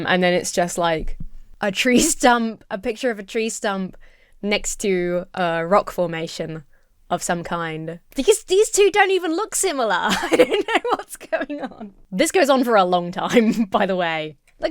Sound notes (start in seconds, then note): 10.0 laughs